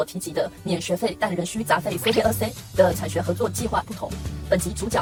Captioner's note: in french